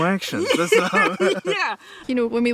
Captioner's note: laughing